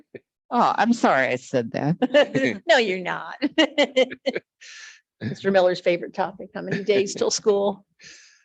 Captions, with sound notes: Oh, I'm sorry I said that. - No, you're not. (laughs) - Mr. Miller's favorite topic. How many days 'till school.